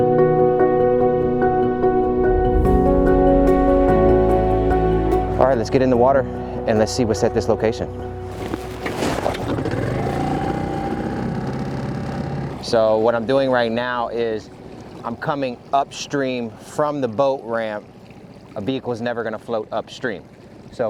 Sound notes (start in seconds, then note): 8.6 boat engine growling